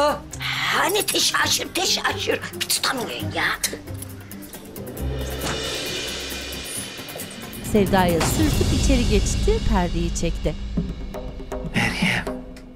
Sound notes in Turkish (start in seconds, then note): 5.2 Kapı açılma sesi; 7.7 Kapı kapanma sesi